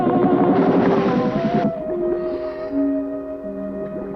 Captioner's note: water splashing